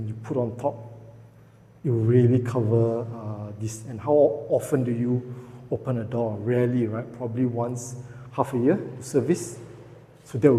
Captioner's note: the outdoor aircon compressor